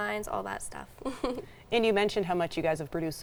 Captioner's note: chuckling